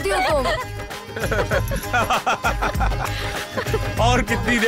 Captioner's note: Laughs